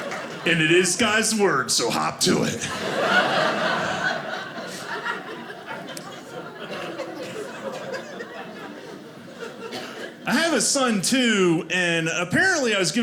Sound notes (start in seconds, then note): 2.3 audience laughing